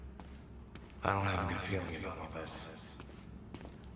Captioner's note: as an echo from the past